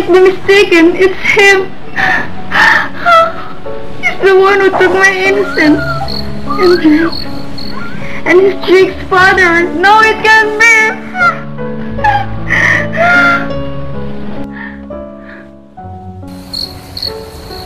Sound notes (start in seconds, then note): 3.8 crying; 12.9 crying